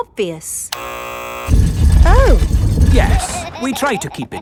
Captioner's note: buzzer sounds